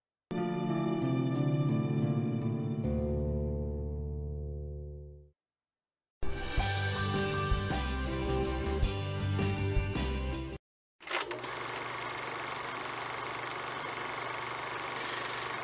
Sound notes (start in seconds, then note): 6.3 soul music plays; 11.0 film projector rolls